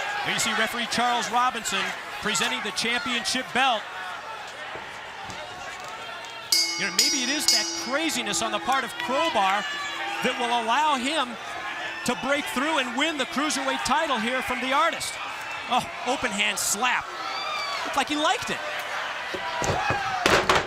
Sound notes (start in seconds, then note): 6.5 bell ringing